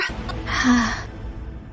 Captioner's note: sigh